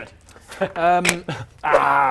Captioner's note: snap